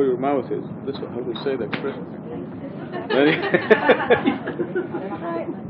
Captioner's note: gülüşmeler